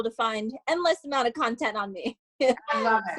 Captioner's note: laughs